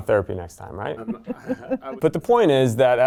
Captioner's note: laughs softly